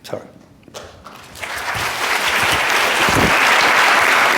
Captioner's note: applause